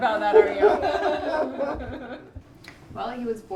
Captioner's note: laughing